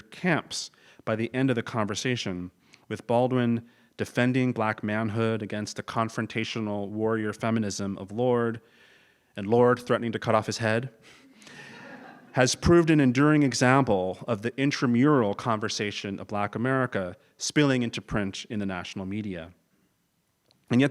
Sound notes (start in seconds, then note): 11.3 laugh